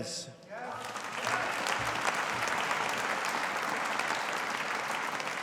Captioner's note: audience applauding